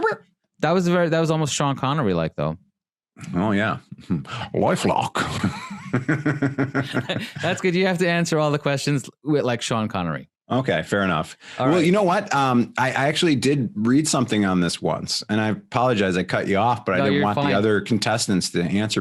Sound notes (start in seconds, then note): 4.9 laughing